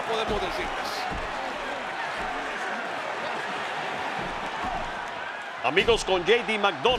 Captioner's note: applause